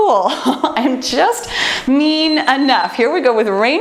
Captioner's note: timer beeps